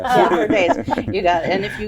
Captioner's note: all laugh